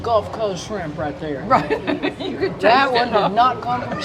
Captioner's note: laughs